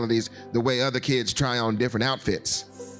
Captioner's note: none